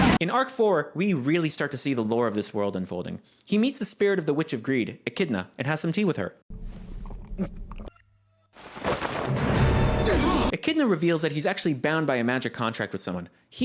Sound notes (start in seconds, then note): 7.0 Subaru drinking; 9.9 the gang gasps